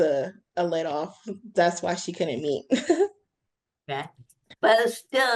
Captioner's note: chuckles